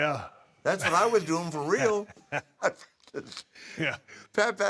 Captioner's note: laugh